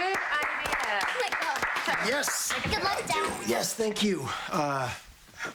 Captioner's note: applause